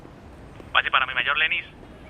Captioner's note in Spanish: Voz en la radio